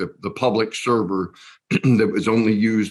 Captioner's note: coughs